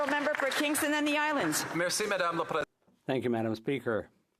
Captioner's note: some Applause